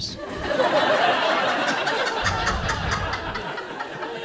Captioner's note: audience laughs